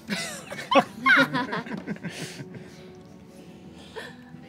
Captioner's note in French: rires